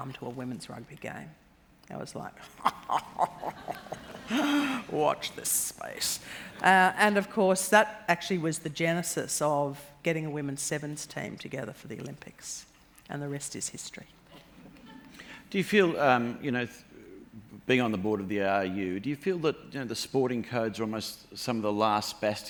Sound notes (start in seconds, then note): 2.4 laughs